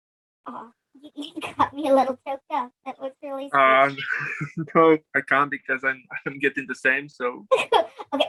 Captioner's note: clears through